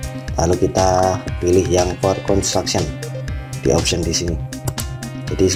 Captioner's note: click